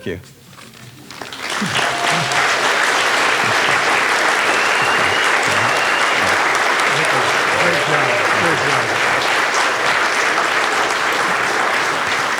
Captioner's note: all clapping